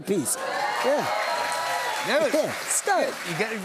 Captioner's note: cheers and applause